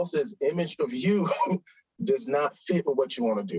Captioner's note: chuckles